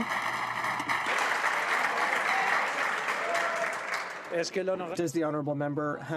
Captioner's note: applause